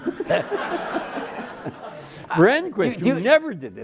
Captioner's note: everyone laughing